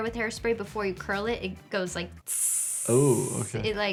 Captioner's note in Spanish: imitando chisporroteo